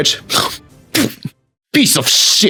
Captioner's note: spits